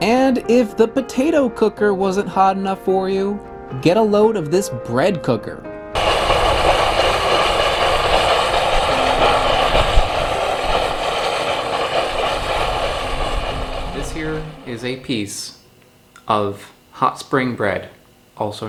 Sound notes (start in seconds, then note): 5.9 cooker hissing